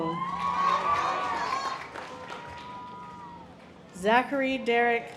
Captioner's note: audience applause